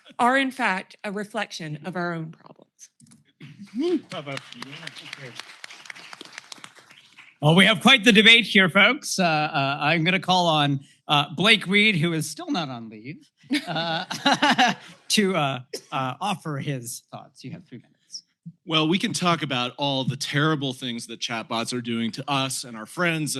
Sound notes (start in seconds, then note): 3.6 applause; 13.5 laughter